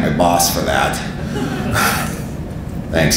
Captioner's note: audience laughing